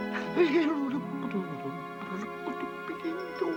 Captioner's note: gentle humming